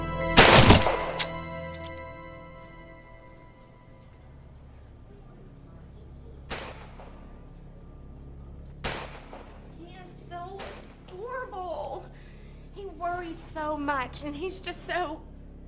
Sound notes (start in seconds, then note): 0.4 blood spattering; 0.4 gunshot blasting; 6.5 gun blasting